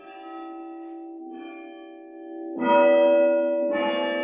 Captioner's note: bells ringing